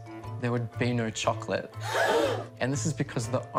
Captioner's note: gasping